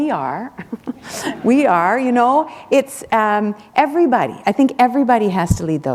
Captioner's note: laughter